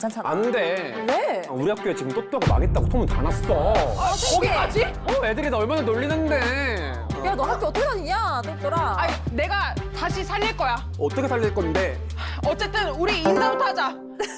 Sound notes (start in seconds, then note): 2.8 gossip travels fast sound effect